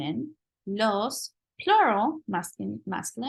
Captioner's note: spanish